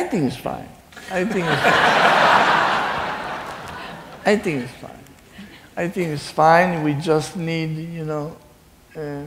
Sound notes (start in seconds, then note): 1.0 laughing